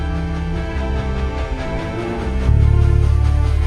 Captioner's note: dramatic music; train whooshing